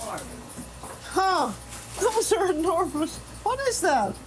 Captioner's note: laughs